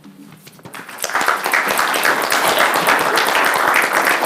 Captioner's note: applause